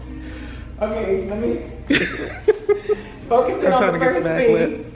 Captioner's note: laughs